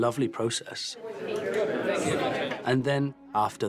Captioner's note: all chattering